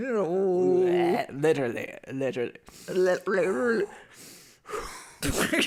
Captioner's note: takes deep breaths